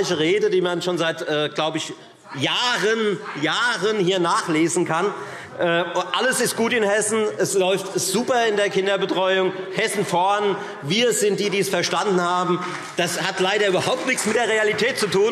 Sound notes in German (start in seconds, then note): 11.9 Demonstrativer Beifall CDU und BÜNDNIS 90/DIE GRÜNEN